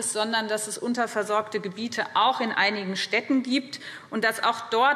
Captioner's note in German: none